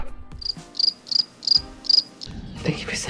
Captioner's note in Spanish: Sonido de grillos